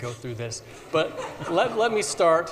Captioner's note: audience laughs